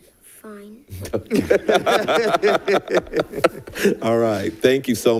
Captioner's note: board members laughing